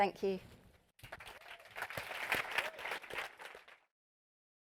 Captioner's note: clapping